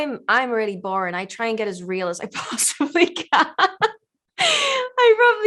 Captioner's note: laughs loudly